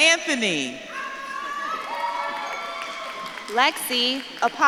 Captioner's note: audience claps and cheers